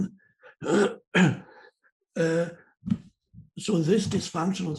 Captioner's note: clears throat